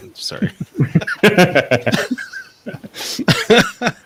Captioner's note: laughing